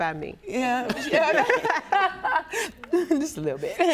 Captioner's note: laughs